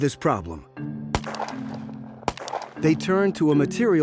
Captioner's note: gunshots